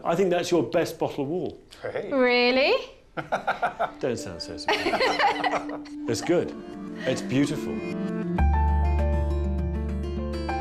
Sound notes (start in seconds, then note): 3.0 laughing; 8.1 gentle piano music